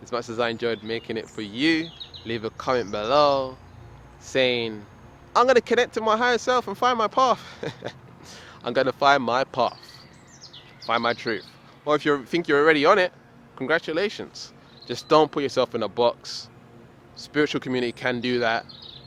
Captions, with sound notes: as much as I enjoyed making it for you. Leave a comment below, saying I'm gonna connect to my higher self and find my path. (laughs) I'm gonna find my path, find my truth. Or if you think you're already on it, congratulations. Just don't put yourself in a box. Spiritual community can do that.